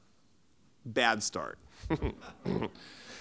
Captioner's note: laughs